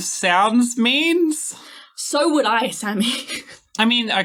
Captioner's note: exasperated